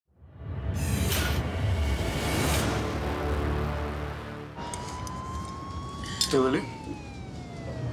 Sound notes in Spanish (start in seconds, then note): 4.3 sirenas de patrulla policíal